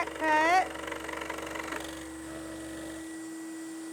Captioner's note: sawing